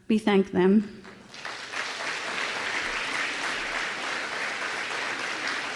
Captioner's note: applause